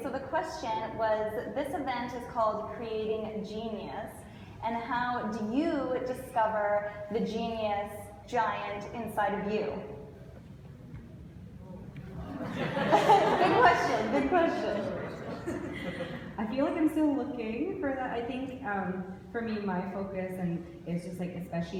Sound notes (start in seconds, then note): 12.2 audience laughs